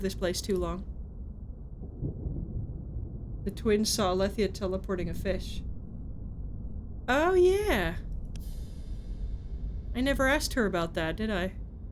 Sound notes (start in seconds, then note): none